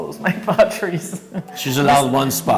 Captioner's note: giggle